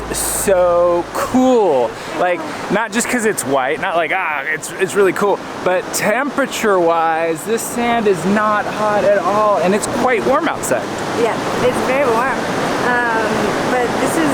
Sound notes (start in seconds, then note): none